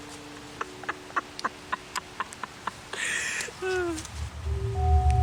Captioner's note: laughs